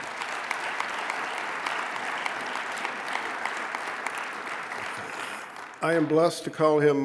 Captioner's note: applause